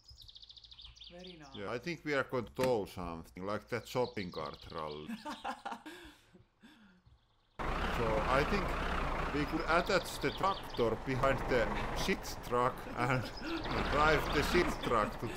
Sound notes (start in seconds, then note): 5.0 laughing; 7.6 tractor enging running